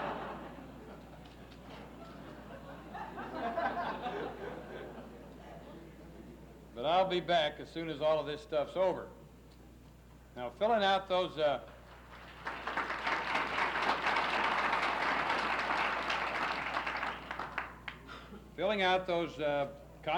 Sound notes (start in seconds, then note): 1.6 laughs; 11.6 applauses